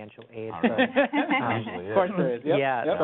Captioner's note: laughs